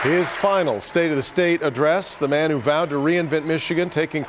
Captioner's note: applause